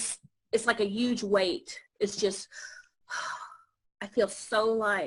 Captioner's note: sighs